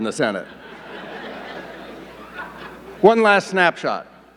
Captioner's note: audience laughing